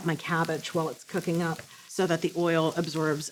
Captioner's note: sizzling